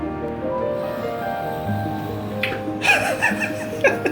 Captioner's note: heavy breathing